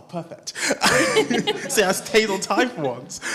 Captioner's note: laughs